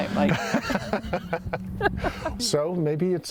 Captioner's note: laughs